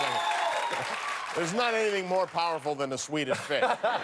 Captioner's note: cheers and applause